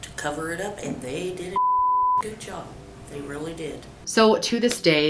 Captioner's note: beep